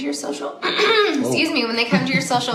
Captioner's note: clears throat